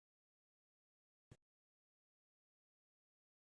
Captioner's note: silence